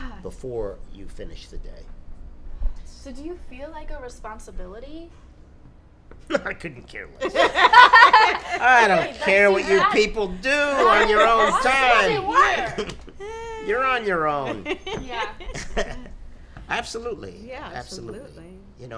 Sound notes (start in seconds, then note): 7.4 laughing